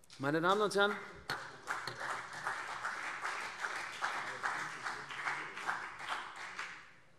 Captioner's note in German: Beifall CDU